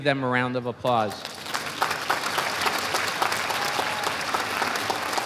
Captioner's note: audience applauding